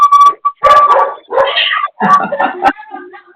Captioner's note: dog barking; laughter